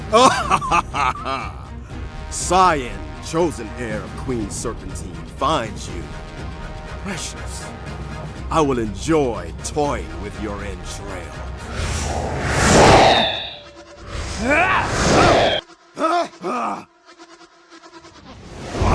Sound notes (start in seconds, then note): 0.0 Scion laughs; 14.2 shouts